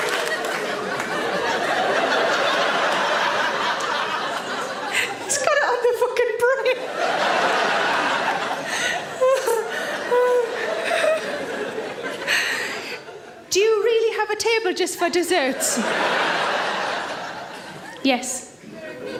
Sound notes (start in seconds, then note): 1.6 audience laughs; 8.6 Sarah laughs; 15.4 audience laughs